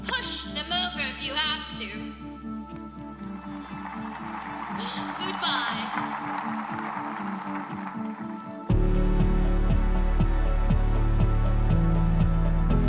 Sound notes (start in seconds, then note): 3.2 audience applauding; 8.9 gentle triumphant music